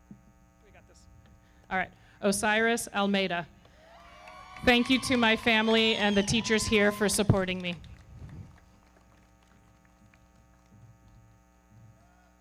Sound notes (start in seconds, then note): 3.7 audience cheering; 4.1 everybody clapping; 8.4 everybody clapping